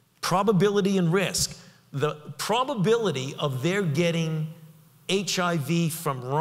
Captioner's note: none